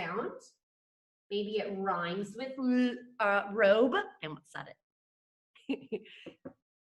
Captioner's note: chuckles